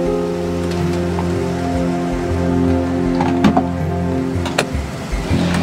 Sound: doors lock

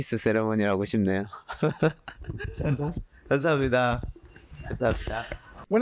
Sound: laughs

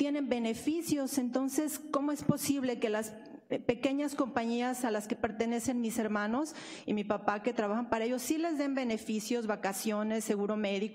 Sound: speaking spanish

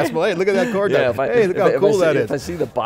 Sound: laughing

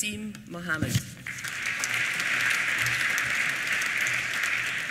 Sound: applause

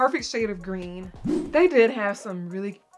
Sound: woosh

